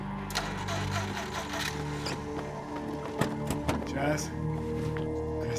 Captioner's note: car ignition rumbling